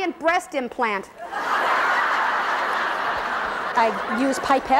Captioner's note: laughing